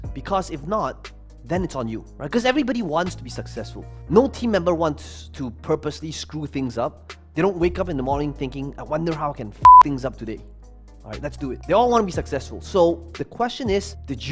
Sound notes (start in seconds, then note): 9.6 beep